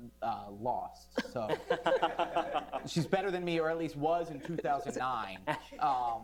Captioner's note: laughter